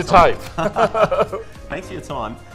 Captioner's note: hearty chuckles